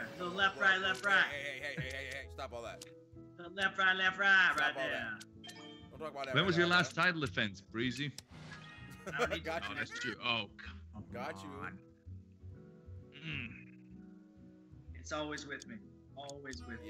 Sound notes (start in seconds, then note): 8.8 laugh